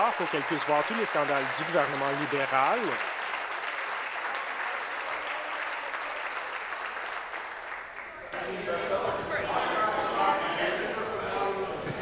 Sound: applause

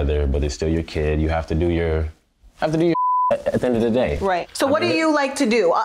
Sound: beep

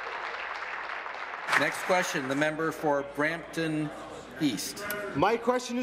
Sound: applause

